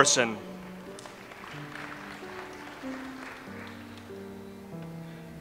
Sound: audience applauds

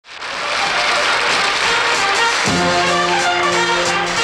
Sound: audience applauds; big band jazz music

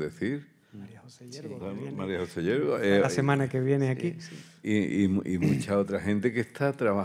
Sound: panelists speaking in Spanish; continues in Spanish

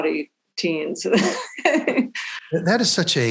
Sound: chuckling

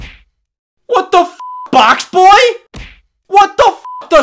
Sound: beep; beep

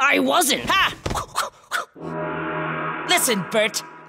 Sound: gong rings

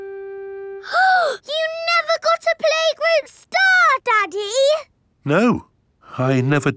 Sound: gasps

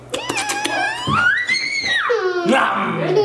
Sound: giggles

